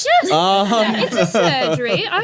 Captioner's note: laughing